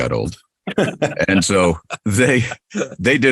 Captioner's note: men laughing